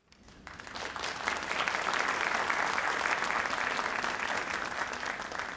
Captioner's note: audience applauding